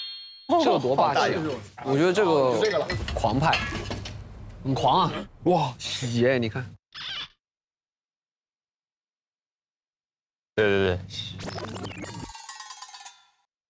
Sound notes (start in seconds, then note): 2.9 krump!